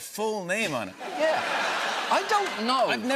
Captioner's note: laughter